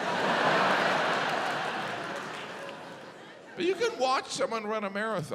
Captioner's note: audience laughs